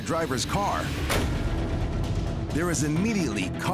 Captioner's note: car door slams